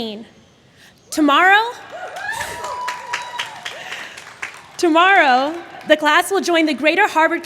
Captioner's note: applause